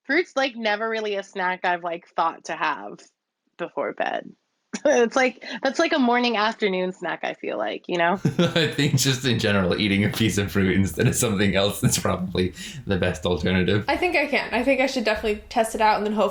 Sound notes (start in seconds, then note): 8.2 laughs